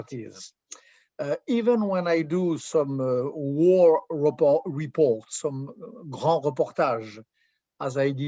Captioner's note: french